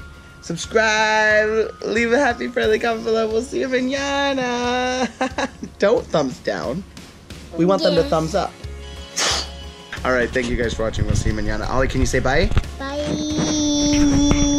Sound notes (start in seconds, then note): 4.8 laughs